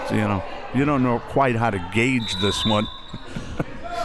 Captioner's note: laughs